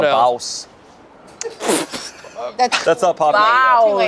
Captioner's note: group laughs